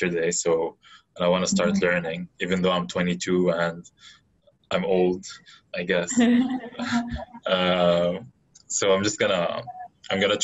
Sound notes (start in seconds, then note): 7.4 laughing